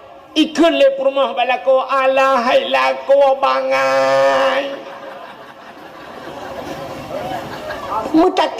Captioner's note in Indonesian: tertawa